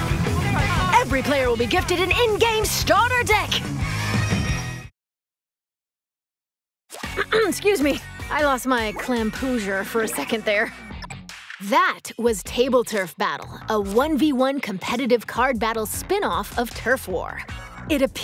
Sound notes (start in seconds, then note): 6.8 narrator clears throat; 8.5 lighthearted synth rock music